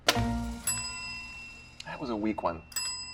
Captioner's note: bell dings